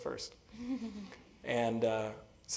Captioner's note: laugh